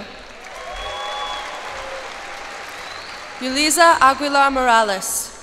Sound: cheers and applause

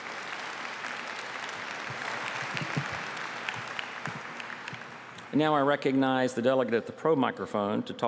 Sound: applause

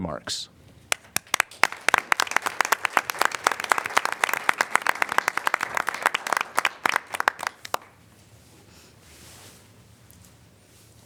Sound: applause

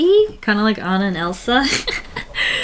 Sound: laughs

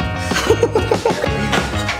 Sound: laughing

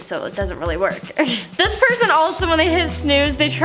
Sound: laughs

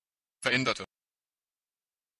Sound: fast Pronunciation

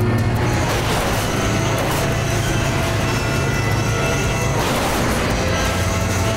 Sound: dramatic music; plane crashing

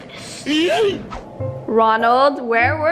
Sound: air swoosh

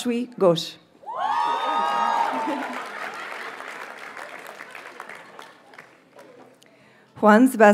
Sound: audience cheers and applauds

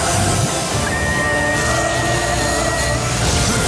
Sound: electricity crackling; air whooshes

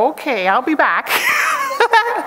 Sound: chuckles

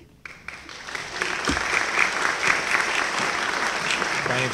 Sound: applause

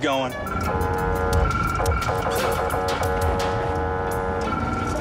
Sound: honking

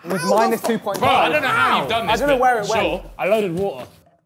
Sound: group clamours in disbelief

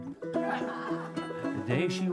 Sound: laughter

